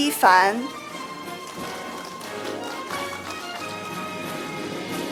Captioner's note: audience applauding; orchestral music